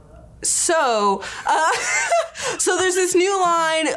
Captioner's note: laughs